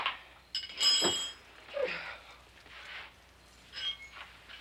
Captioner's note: metal clanks